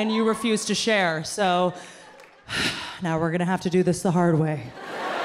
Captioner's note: exhales loudly; audience laughing